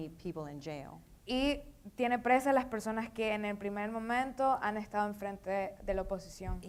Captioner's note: speaking in foreign language